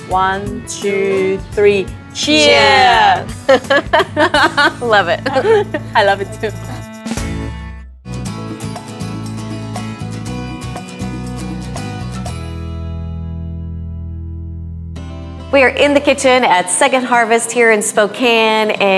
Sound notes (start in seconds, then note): 3.7 laughing; 8.0 upbeat music